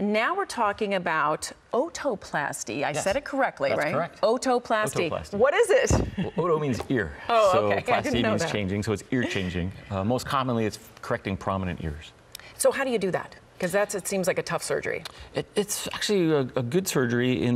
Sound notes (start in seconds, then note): 6.0 chuckles